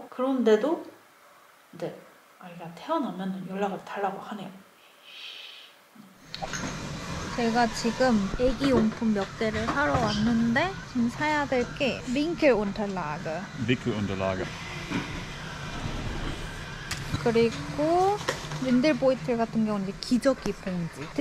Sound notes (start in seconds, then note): 4.7 scratching